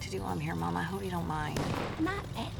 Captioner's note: car backfires